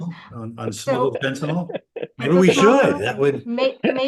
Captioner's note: laughter